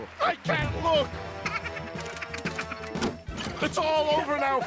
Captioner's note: laughing